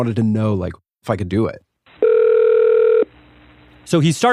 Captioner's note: phone rings